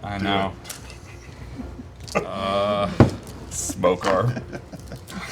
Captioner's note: laughing